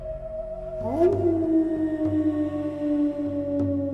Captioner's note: howling